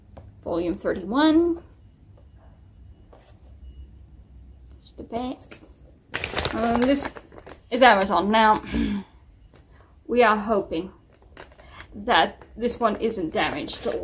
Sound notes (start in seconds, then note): 8.7 clears throat